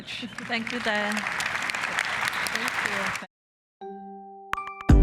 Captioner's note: applause